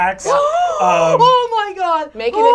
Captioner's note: gasps